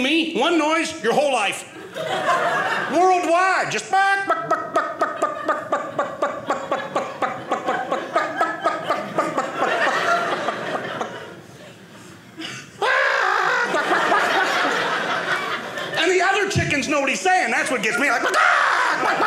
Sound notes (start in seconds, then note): 4.0 clucking like a chicken